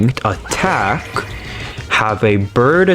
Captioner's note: inhales Oxygen